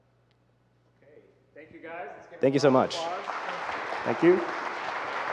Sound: audience clapping

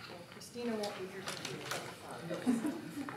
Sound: papers rustling

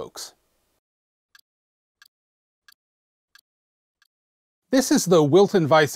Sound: ticking sound

